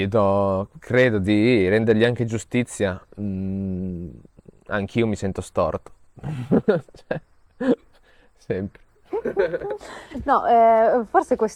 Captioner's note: laughs